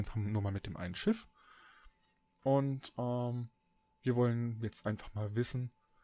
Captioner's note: ehm